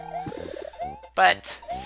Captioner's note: inhaling